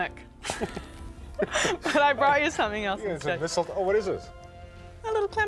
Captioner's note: both laugh